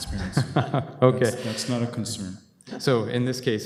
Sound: laughter

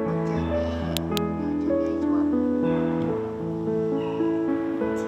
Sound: Scratch

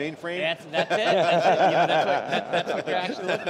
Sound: laughter

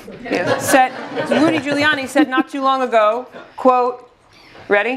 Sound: laugh

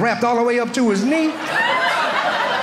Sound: audience laughing

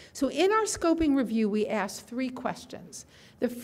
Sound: none

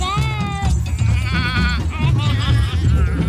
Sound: man bleats; laughs

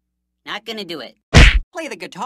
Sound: punch

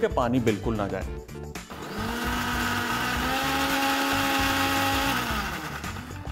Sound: whirring sound

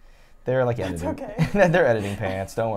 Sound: chuckles

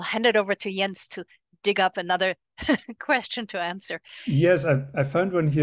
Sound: laughs

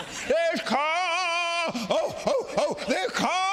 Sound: grunting

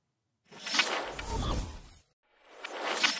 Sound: logo whooshing

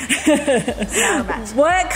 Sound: laughs

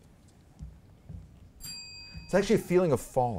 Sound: bell ringing

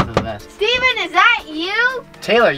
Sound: fist knocking

